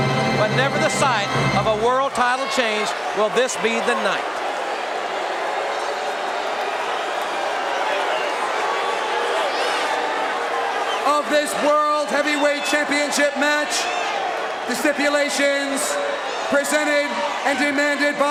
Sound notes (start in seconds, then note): 4.7 audience cheering